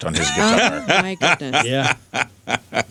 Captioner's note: laughing